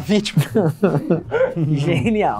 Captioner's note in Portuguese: rindo